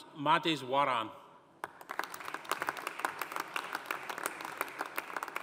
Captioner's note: audience applauding